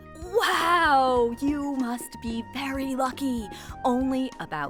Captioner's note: sarcastically